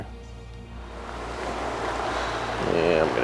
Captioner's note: water rushing